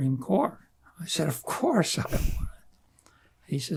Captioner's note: laughing